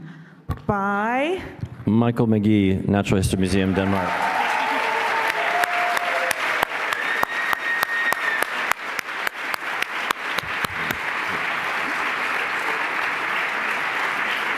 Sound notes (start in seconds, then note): 4.7 applause